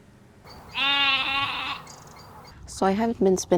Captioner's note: sheep noises